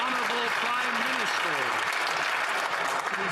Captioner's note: some Applause